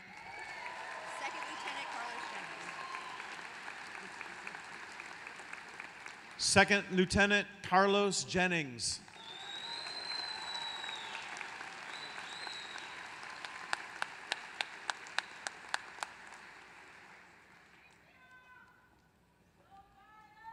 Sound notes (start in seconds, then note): 0.0 applause; 10.2 applause